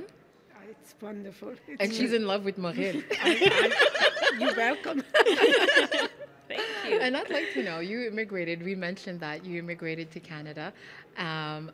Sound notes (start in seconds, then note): 3.0 laughing